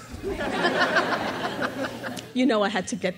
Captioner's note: crowd laughs